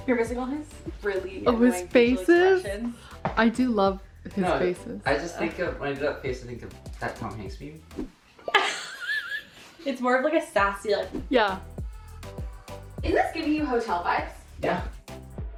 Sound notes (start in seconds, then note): 8.4 worker laughs